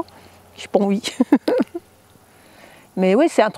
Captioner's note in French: Rires